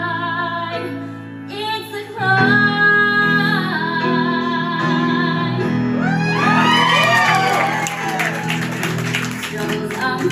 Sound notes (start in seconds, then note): 6.0 audience cheering